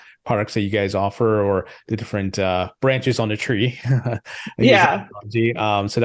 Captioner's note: laughs